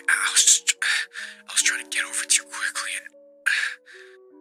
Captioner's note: breathes